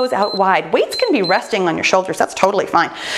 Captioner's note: timer beeps